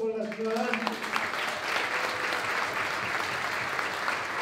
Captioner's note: applause